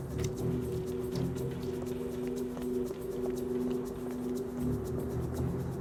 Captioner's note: suspenseful music continues; footsteps tapping